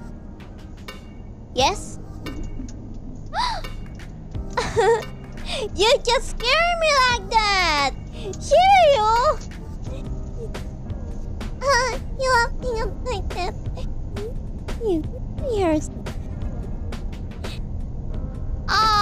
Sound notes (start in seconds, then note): 11.7 laughing